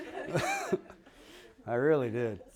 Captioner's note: laughter